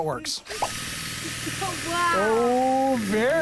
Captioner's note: motor revving